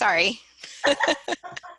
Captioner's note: laughter